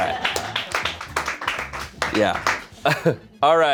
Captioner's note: crew applauds